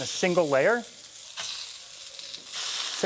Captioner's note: sizzling